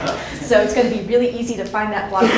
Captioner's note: laughs